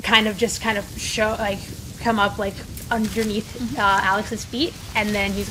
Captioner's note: leaves rustling and wind blowing